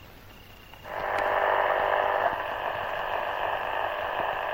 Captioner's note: radio buzzing